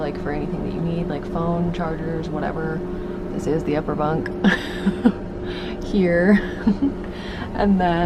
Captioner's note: laughing